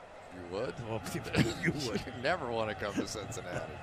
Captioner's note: laughter